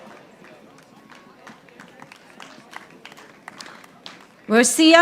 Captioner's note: audience applauding